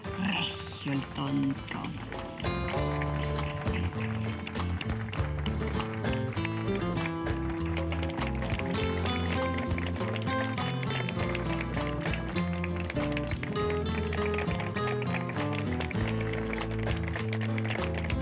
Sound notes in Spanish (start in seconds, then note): 5.7 aplausos